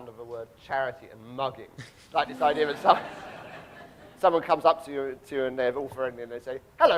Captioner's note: audience laughing